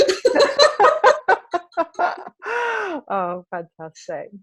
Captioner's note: laughing